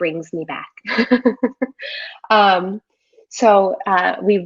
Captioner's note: giggles